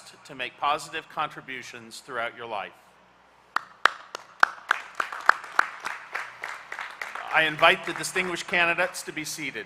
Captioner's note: applause